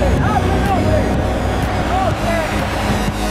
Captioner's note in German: cheering